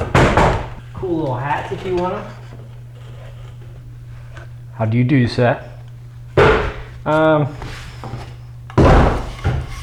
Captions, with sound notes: Cool little hats if you want them. - [British accent] How do you do, sir?